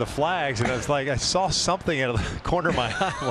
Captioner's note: laughter